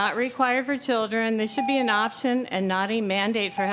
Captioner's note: tone